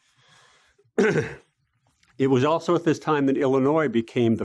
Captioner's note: cough